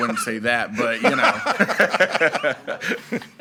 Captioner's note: chuckles; laughs; all laughing